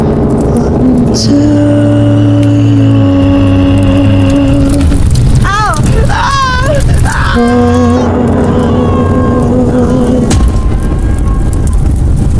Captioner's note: screaming and burning alive